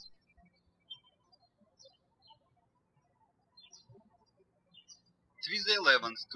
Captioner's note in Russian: птички щебечут